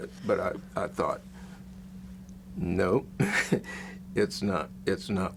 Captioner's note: chuckles